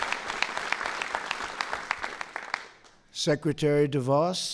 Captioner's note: applause